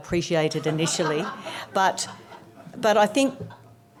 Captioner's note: audience laughs